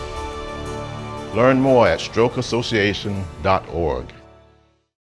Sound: voiceover

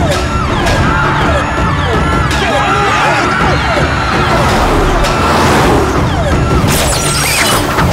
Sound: sirens sounding

